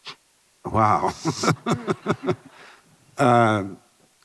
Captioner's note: chuckles